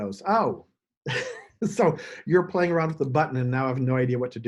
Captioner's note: chuckles